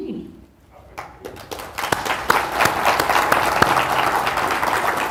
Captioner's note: crowd applauds